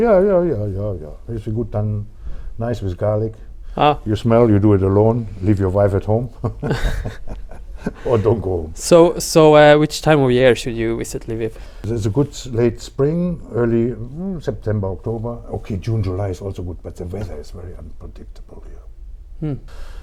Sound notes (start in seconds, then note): 6.4 laughs